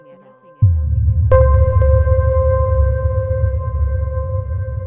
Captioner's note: water rumbling